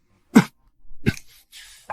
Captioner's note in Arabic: سعال سعال سعال